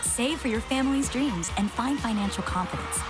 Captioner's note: crowd Cheering